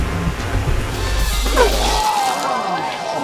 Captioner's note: polisher whirring; suspenseful music continues; bright music; customer retches; onlookers gasp